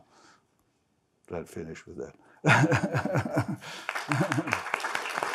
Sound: laughs; crowd clapping

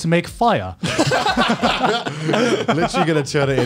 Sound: laughs

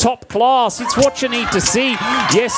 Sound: crowd cheers and laughs

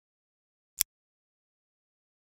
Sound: click

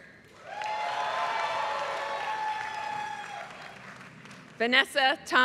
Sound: applause

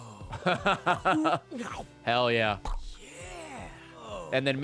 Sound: laughs

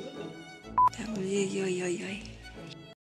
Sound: beep

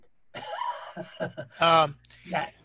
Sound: chuckles

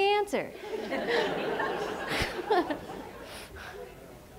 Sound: laughter

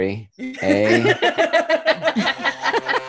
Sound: laughter

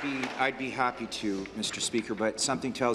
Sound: applause

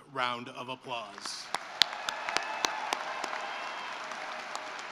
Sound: cheering and applause

